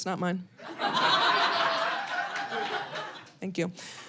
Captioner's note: audience laughing